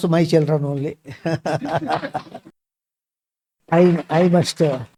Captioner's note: laughs; claps